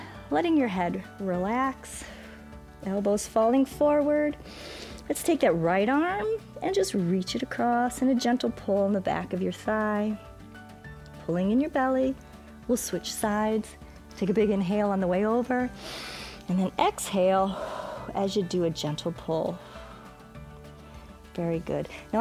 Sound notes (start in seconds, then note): 15.7 exhales; 15.8 inhales